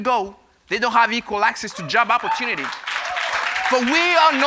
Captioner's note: applause